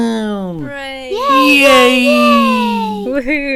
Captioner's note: Booples cheer